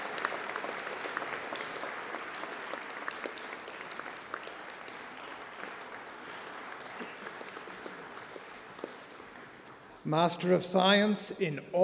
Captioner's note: applause